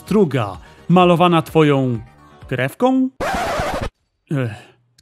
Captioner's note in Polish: zgrzyt zerwanej taśmy